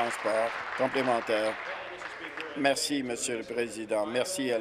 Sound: applause

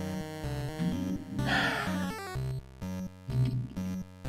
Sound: sighs

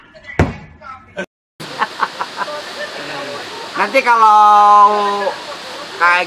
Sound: laughter

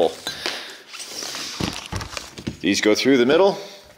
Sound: heavy sliding sounds

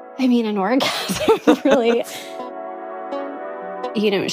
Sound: both laugh

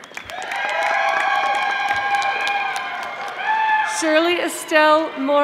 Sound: audience applauding

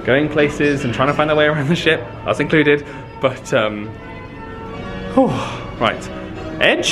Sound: exhales

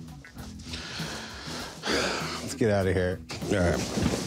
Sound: sighs

